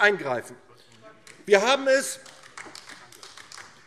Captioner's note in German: Beifall DIE LINKE